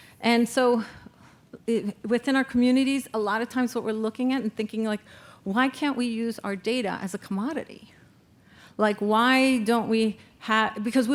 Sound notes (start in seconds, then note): none